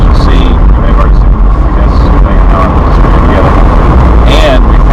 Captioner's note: engine drowns out speaker